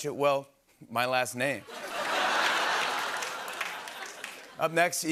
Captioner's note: laughter and applause